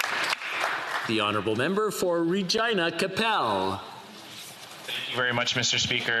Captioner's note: applause